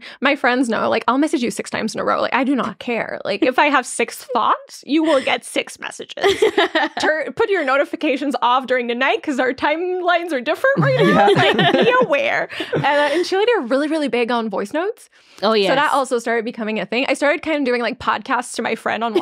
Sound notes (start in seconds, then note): 6.2 laughing; 10.7 laughing